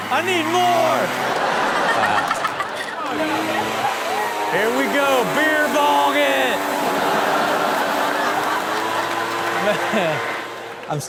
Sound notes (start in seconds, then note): 1.3 Chanel laughs; 3.2 leaf blower blowing; 7.1 audience laughs